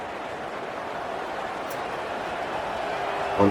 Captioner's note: crowd Noises